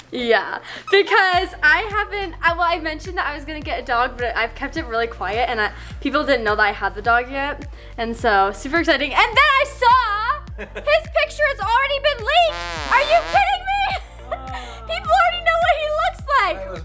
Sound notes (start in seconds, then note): 12.2 dramatic music; 13.8 laughs